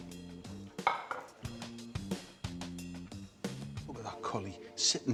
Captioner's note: gentle upbeat music; bowl clatters